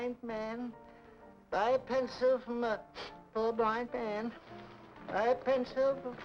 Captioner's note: sniffs